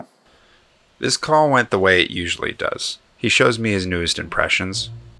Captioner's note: voiceover